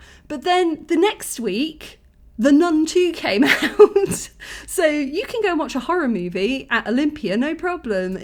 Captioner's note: laughing